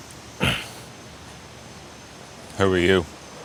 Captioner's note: mechanic grunts